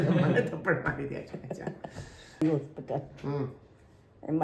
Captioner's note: laughter